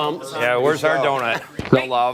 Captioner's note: laughter